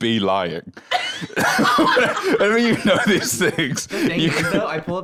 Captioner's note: laughs